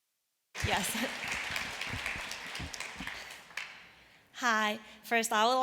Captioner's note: applause